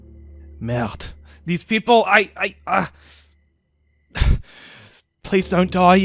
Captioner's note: grunts